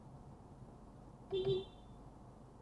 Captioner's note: beepbeep